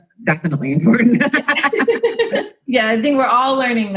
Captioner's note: both narrators laughing